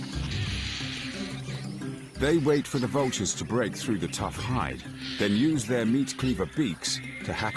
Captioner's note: vultures cawing; upbeat music